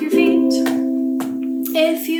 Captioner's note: feet stomping